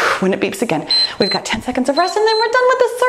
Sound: timer beeps

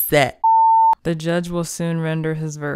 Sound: long beep

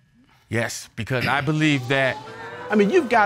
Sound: audience exclaim

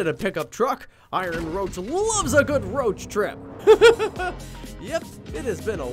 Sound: laughs

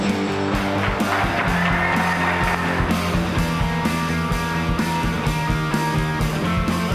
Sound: upbeat blues music; audience applauding; audience cheering

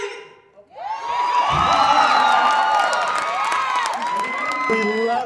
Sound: cheers and applause

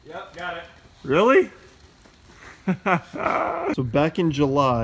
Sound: laughs

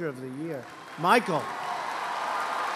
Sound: applause

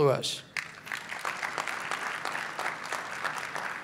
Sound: clapping

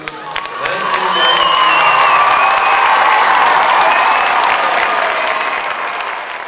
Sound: applause, cheering

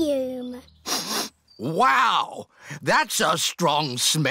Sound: sniffs

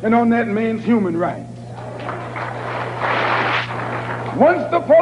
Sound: applause

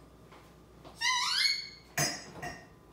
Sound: squeaking door sound

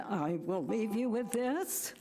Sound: buzzer rings

